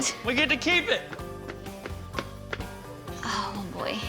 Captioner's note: running footsteps